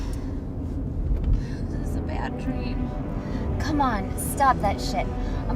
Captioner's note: loud wind